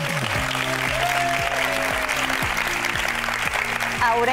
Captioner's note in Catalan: aplaudiments